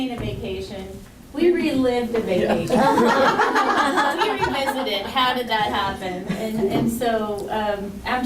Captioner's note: laughter